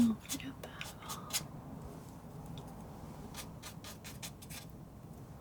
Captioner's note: scratching